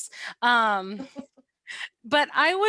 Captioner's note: laughter